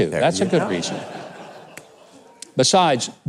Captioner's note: audience laughs